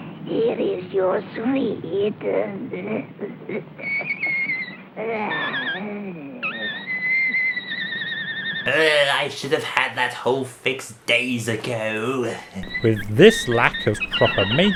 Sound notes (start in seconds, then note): 3.8 high-pitched squealing